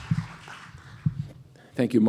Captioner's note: applause